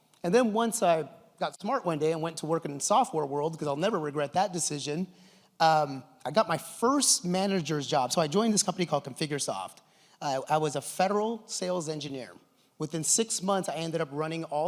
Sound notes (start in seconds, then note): none